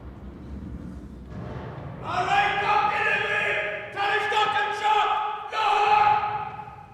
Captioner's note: yelling orders